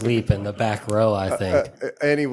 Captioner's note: laughter